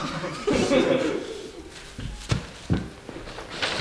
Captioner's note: group laughing